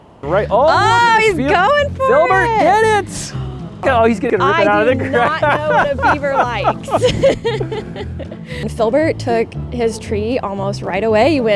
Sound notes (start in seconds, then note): 0.0 whimsical upbeat music; 3.1 gasps; 4.4 laughs